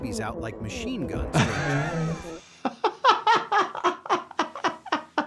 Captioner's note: laughing